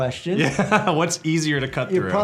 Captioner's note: laughs